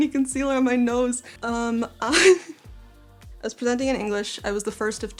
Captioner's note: laughs